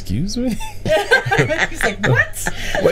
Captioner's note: group laughing